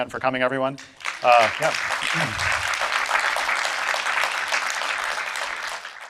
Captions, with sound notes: Thanks again for coming everyone, uh yeah. (audience applauding)